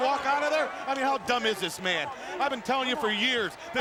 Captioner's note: crowd clamoring